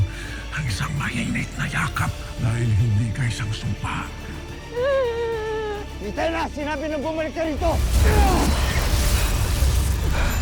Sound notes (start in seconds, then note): 5.2 wails; 9.7 grunts